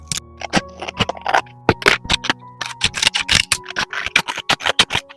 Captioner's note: sound of cutting paper with scissors; snip snip